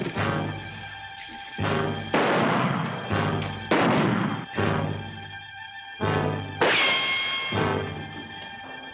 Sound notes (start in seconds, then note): 3.5 gunshots